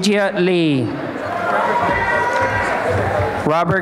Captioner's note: applause and cheering